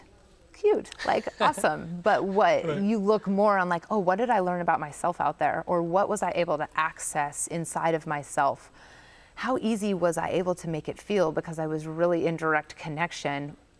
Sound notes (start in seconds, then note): 1.0 laughs